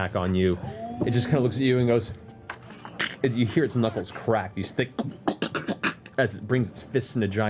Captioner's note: cracks